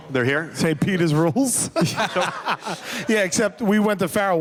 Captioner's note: laughs